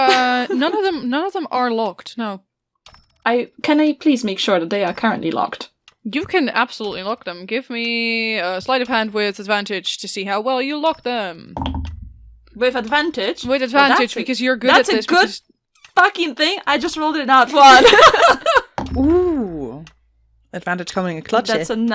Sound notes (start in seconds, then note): 11.8 dice thunks; 17.7 laughs